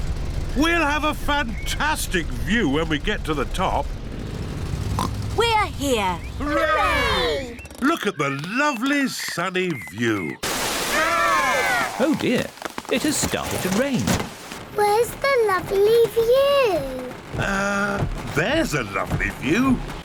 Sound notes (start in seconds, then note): 4.9 oinks